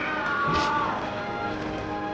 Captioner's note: Conan yelling